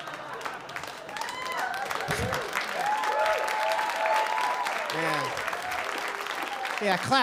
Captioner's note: applause